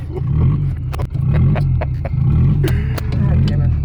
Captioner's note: laughs; engine revs